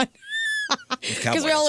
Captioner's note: laughing